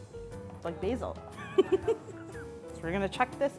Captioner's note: laughing